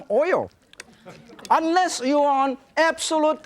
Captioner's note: audience giggling